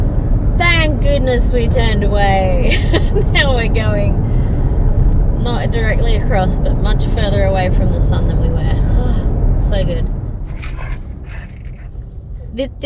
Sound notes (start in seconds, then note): 2.3 laughs; 8.9 relieved sigh; 10.6 gruffs and huffles